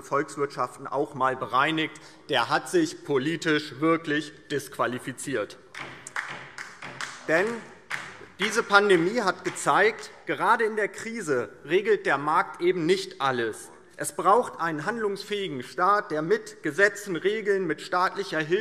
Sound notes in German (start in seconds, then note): 5.7 Beifall DIE LINKE